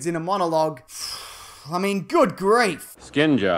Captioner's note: sigh